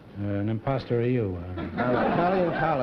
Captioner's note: laughter